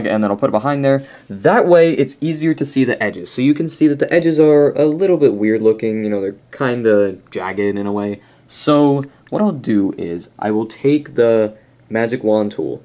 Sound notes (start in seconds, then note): none